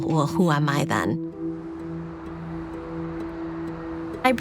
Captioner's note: traffic humming in distance